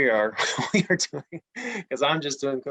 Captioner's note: laughs